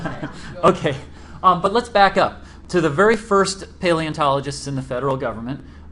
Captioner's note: laughter